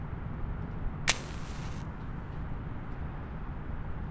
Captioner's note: lighting match